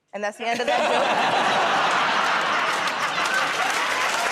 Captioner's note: laughter